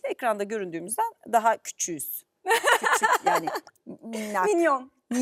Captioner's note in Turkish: kahkaha